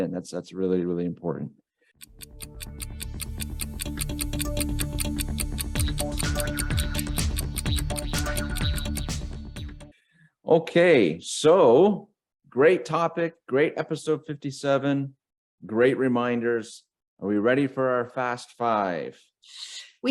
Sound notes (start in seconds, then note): 2.0 timer ticking; 2.1 upbeat electro music